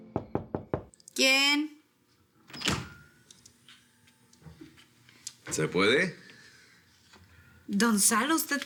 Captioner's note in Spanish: Toques en la puerta